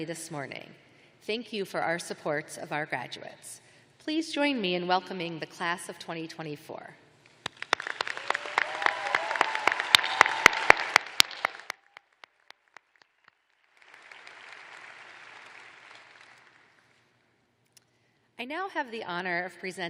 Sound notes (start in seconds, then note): 7.5 cheers and applause